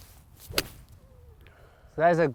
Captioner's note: club strikes